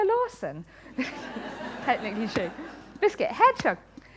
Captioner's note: laughter